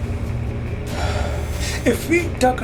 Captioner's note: exhale